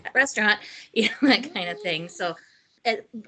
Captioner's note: laughing